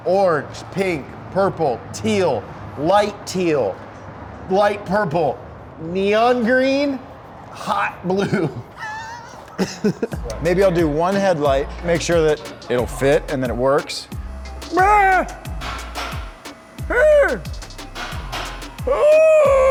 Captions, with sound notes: orange, pink, purple, teal, light teal, light purple, neon green, hot blue. - Maybe I'll do one headlight. Make sure that it'll fit and then it works. (man yelling)